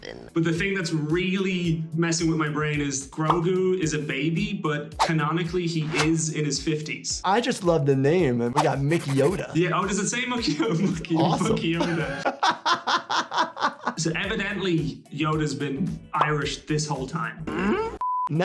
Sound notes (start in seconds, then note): 12.5 laughing